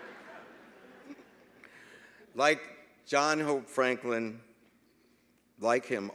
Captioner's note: laughter